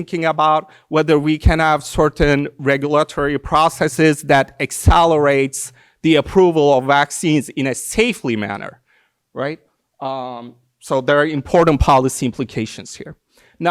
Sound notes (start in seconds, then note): none